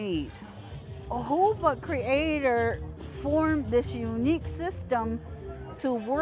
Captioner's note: in foreign language